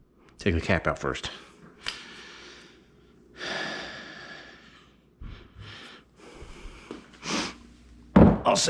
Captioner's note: heavy sigh -- R.I.P. stripped out fastener